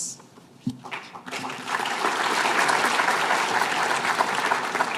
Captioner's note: applause